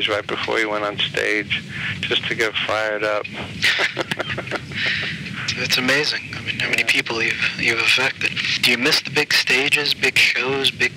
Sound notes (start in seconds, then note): 3.4 laughs